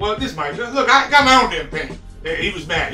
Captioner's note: stutters